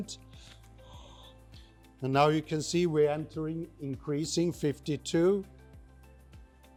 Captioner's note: exhales